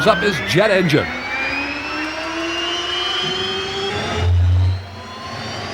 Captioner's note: jet engine whines and roars